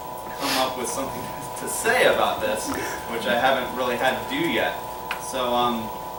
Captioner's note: laughter